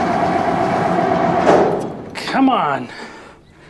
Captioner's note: engine sputtering